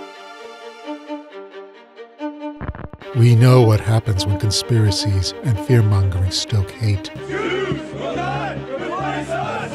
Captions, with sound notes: We know what happens when conspiracies and fear mongering stoke hate. [Chanting] Jews will not replace us.